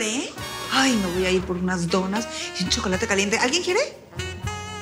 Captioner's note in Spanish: none